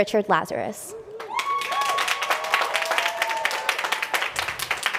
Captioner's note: applause